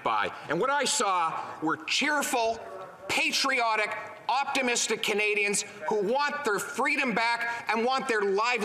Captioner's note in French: voix de l'interprète